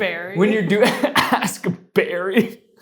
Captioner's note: laughs